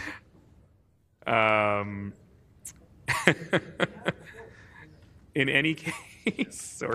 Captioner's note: laughter